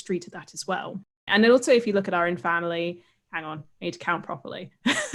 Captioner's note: laughs